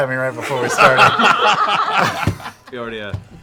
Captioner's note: laughter